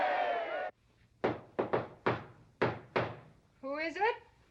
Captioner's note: crowd cheering; loud knocking